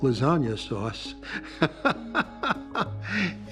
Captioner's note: laughs